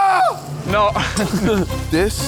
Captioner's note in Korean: 웃음